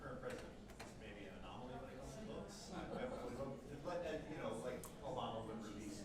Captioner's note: faint speaking off mic